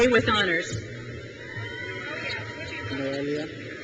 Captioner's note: crowd cheers